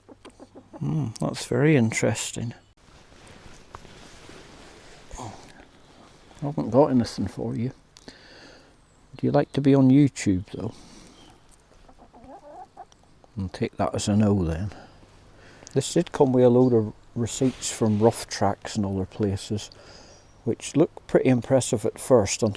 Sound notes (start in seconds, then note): 0.0 clucking; 11.7 clucking